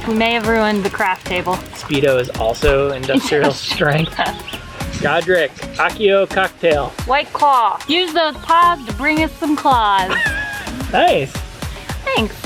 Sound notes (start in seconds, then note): 5.6 foreign language; 10.0 laughing